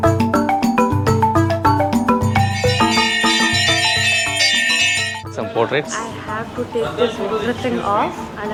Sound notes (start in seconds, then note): 2.2 temple bell